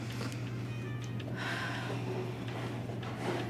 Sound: sighing

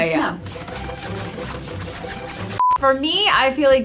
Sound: rapid keyboard typing

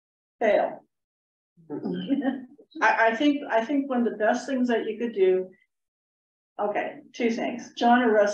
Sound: laugther

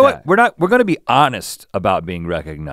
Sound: none

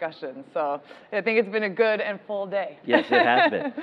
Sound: laughing

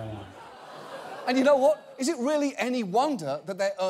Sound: audience laughing

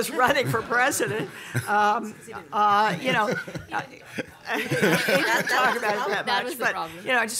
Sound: laughter

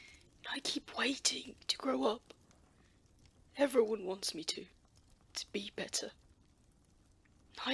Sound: none

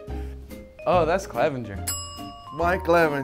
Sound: bell dings

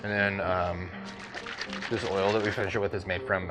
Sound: liquid splashing

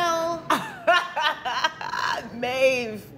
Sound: chortling

